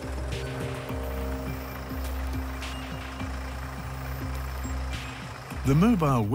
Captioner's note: tractor engine noise